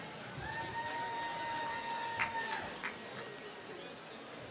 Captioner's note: applause